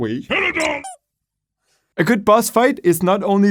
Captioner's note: squeaks